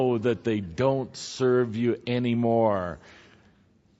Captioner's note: none